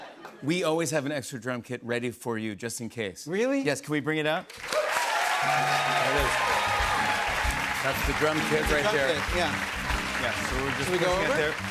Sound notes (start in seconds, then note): 4.5 cheers and applause